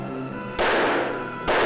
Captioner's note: gunshot fires; gunshots fire